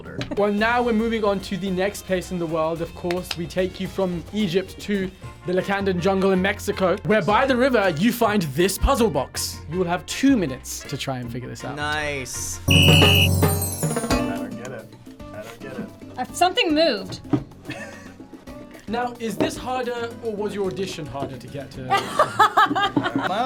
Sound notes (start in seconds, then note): 12.6 whistle blows; 18.0 laughs; 22.0 laughs